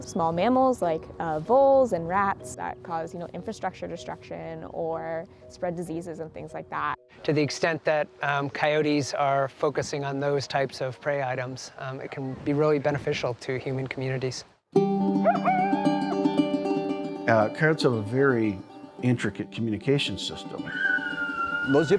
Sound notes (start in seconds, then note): 15.1 coyote howling; 20.6 coyote yowling